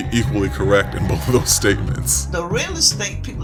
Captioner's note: soundbite of archived recording